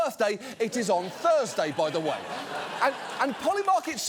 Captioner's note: audience laughs